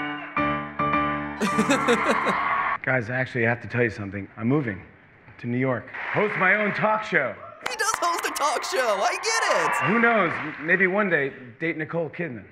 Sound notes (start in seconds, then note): 1.4 laughter